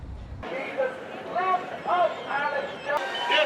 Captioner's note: Alex Jones ranting in the distance